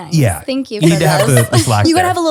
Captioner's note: laughs